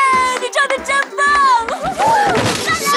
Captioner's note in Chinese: 歡呼聲